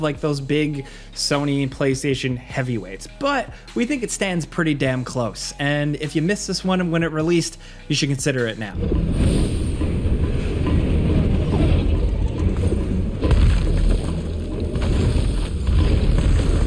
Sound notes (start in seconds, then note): 8.8 fire roaring; 13.3 ground rumbling